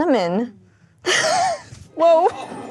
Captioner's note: laughs